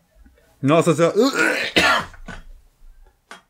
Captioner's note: retches